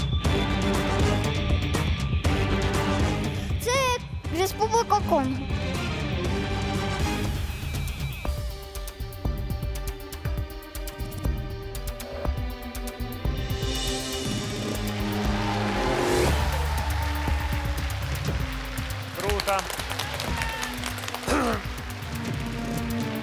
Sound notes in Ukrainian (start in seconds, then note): 10.4 оплески